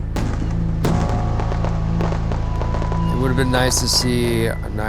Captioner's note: fireworks blasting